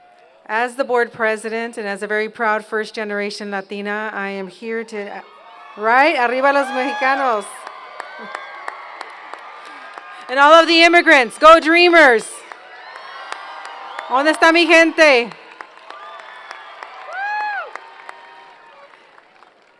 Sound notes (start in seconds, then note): 0.0 speaking Spanish; 6.3 speaking Spanish; 7.6 cheers and Applause; 12.3 applause & Cheers; 14.1 speaking Spanish; 15.5 applause & Cheers